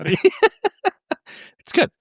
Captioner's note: laughing